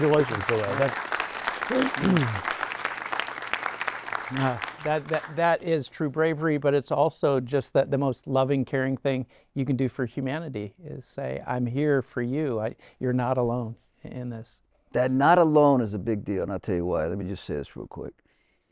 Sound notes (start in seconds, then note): 3.8 audience applauding